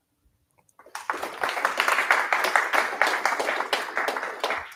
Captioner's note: applause